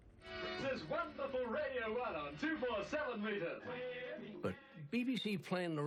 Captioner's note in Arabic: على الراديو